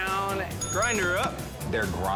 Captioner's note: bell dings